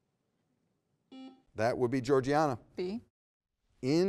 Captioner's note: buzzer beeps